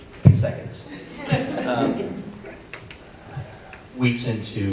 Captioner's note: audience laughing